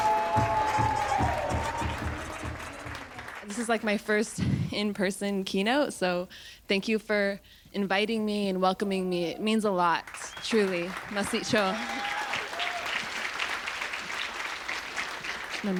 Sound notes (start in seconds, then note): 8.0 speaks foreign language; 10.3 audience cheers